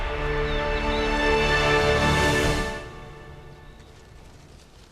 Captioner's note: birds chirping